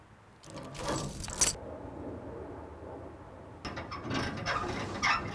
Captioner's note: thumping; chains rattling; creaking